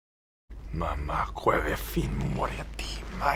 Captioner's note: Speaks Dothraki